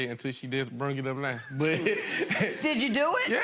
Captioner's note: laughs